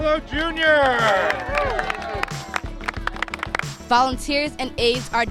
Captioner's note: clapping